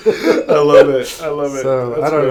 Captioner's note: laughter